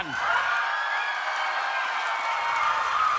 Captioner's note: audience cheers